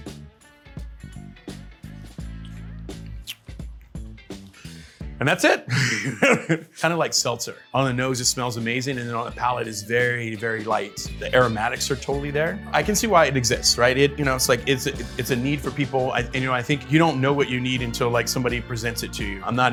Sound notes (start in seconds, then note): 0.1 bright music; 2.2 lip smacking; 5.7 laughs